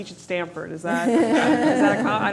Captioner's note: laughter